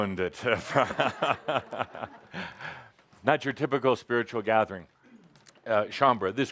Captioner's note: Adamus chuckles